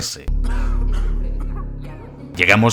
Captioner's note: and coughs are heard